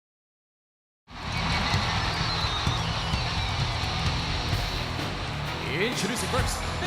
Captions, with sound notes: (upbeat hard rock music) (crowd cheering) Introduce first,